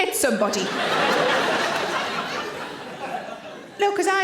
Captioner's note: audience laughing